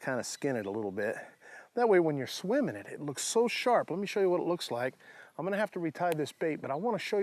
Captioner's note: none